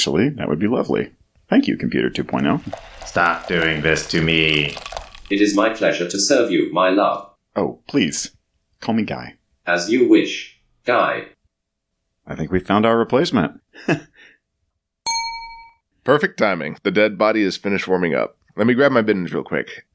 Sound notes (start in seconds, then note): 15.0 ding